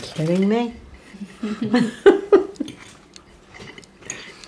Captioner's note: laughing